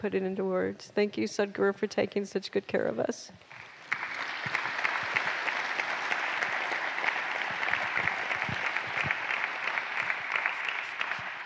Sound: applause

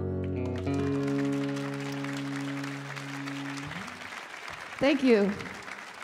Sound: audience applauding

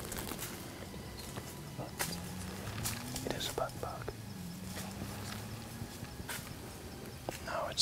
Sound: whispering

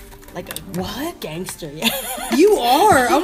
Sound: laughing

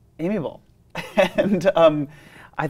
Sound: laughs

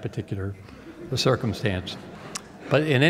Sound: laughter

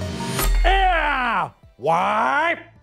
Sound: screams

